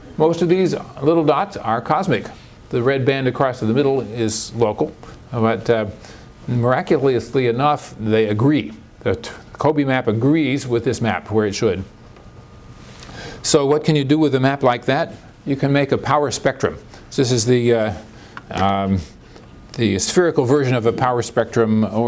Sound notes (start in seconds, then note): none